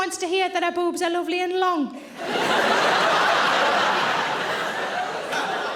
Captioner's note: audience laughing